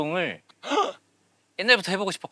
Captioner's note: gasping